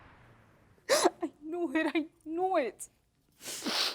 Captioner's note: sobbing